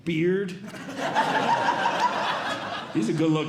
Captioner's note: audience Laughing